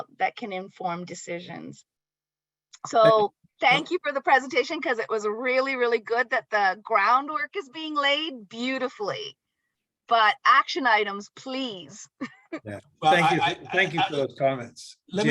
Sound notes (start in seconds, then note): 13.0 laughs